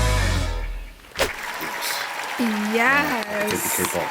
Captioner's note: whoosh then audience applauding